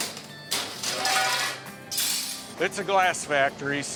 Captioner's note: glass crashing